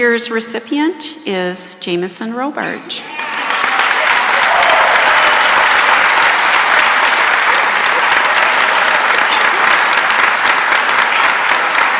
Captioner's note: cheering and applause